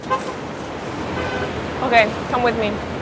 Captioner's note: horn honking